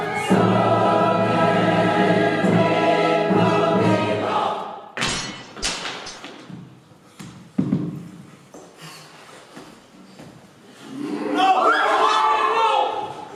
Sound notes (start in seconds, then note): 4.8 music stops suddenly; 5.0 HILARION's sword clatters to the ground; 11.2 OTHERS shout out in alarm